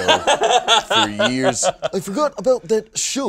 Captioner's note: laughing